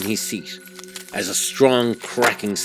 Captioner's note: glass Cracking Loudly